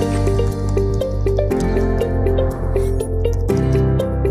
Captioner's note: keyboard clacking